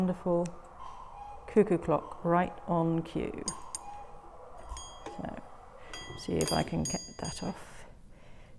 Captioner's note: sound of cuckoo clock